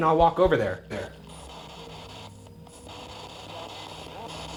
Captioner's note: static